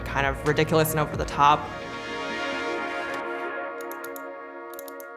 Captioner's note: mouse clicks